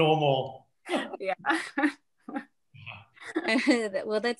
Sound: laughs

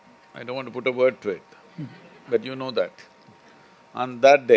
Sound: few laugh

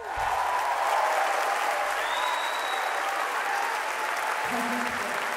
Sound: audience applauding

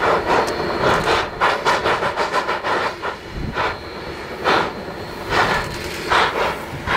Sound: 484 steady chugging

